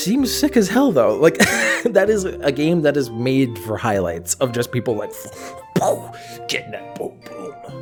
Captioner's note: kicking noises